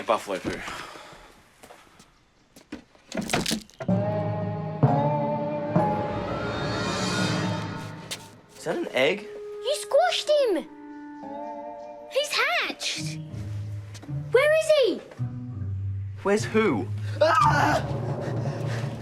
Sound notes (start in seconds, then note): 3.0 cracking noise; 4.0 dramatic music plays; 17.2 screams